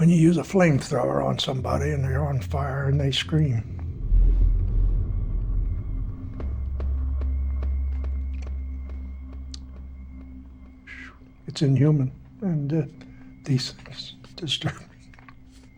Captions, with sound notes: When you use a flamethrower on somebody and they're on fire and they scream... [faint whooshing] [shushes] it's inhuman. And, uh, these things disturb me.